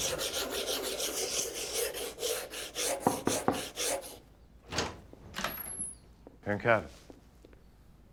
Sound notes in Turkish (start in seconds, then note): 0.0 Rendeleme sesi; 2.9 Kapı tıklama sesi; 4.6 Kapı açılma sesi